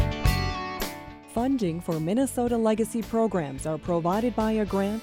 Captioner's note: voiceover